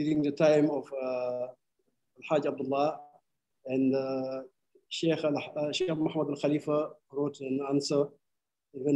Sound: speaking arabic

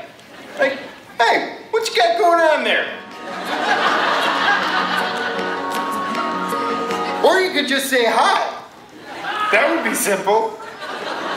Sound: laughter

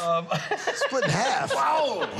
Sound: laughs

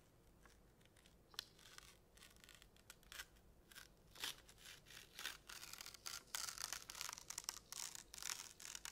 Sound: paper slowly ripping

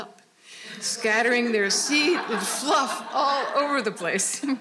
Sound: all laughing

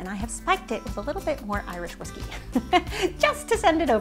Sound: laughs

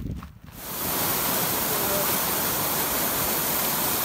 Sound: water falling

